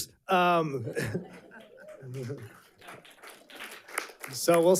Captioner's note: audience clapping and cheering